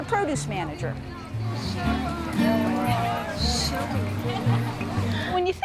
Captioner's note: people chattering